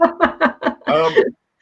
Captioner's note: laughs